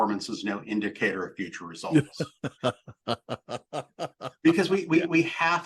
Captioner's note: laughing